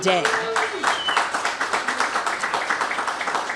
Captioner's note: cheers and applause